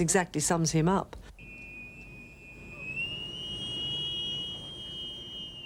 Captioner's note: whistles blowing